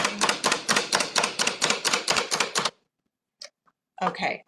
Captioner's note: chopper chopping